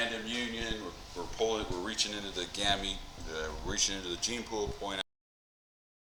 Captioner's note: mic cuts out